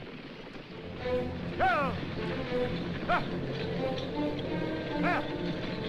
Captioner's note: driver Shouting Commands To Horses